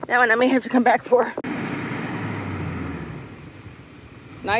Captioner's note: diesel engine roaring